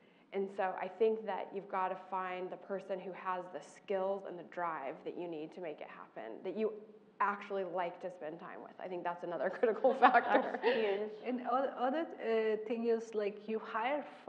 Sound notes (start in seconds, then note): 9.8 laugh